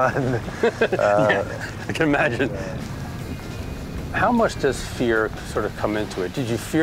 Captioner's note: laughs